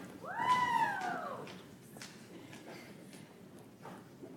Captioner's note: audience applauds